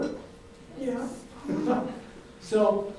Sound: laughs

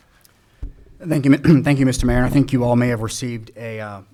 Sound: clears throat

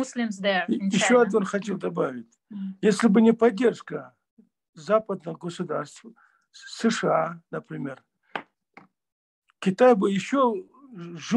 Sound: in Russian

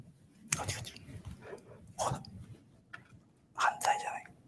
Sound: speaking japanese

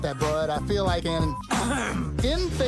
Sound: cough

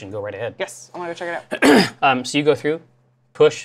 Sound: clears throat

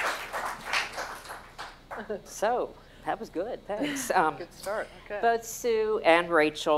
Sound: applause

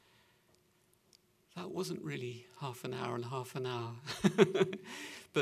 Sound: chuckles

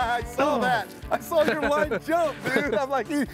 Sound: both laughing

